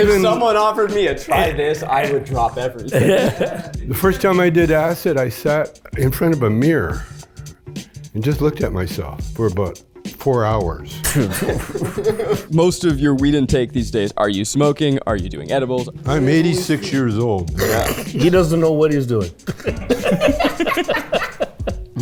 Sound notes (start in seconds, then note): 2.6 group chuckles; 11.0 group chuckles; 19.3 group chuckles; 19.7 group laughs